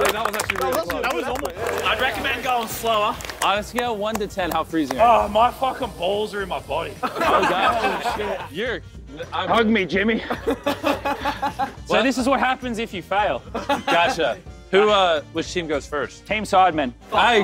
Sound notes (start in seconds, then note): 6.9 contestants laughing; 10.1 contestants laughing; 13.5 contestants laughing